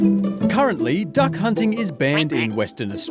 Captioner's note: quacking